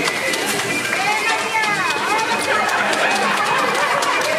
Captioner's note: speaking in foreign language; audience applauding